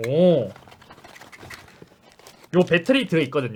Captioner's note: shake shake